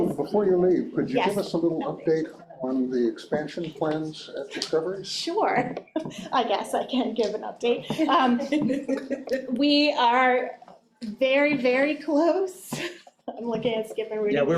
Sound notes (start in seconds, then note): 7.9 chuckles